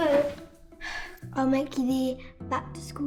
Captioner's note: sighing